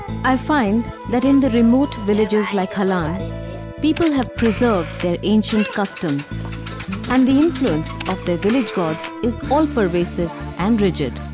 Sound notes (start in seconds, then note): 4.0 camera shutters